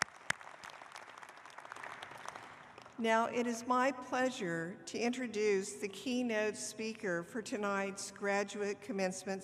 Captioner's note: applause